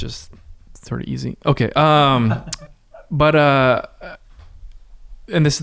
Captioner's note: laughs